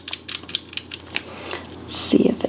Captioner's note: paintbrush whirring